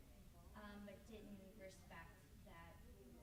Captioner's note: stammers